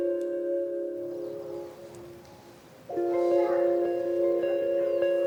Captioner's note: birds and wind